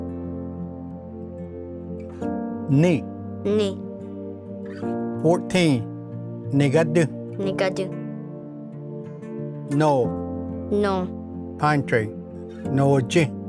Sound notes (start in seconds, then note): 6.1 repeats in Cherokee; 12.8 repeats in Cherokee